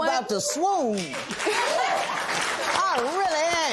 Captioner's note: laughter and applause